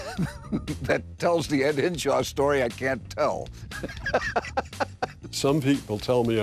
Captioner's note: laughs